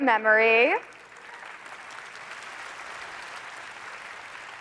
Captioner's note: applause